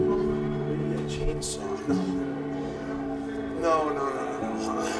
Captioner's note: Sting speaking faintly